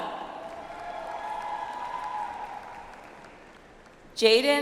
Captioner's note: audience applauds